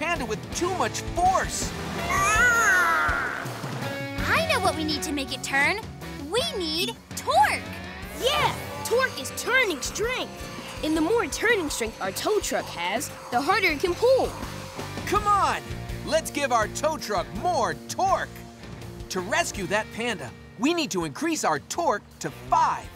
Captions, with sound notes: with too much force. [whimpering] I know what we need to make it turn. We need torque! Yes, torque is turning strength, and the more turning strength our tow truck has the harder it can pull. Come on, let's give our tow truck more torque. To rescue that panda, we need to increase our torque to five.